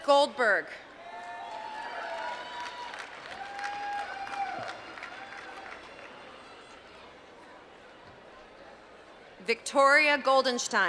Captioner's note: applause